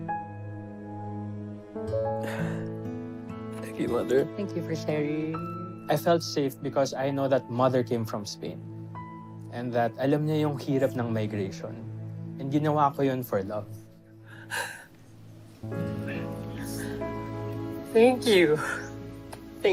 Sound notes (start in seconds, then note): 2.2 exhales sharply; 14.3 exhales sharply; 15.6 somber music continues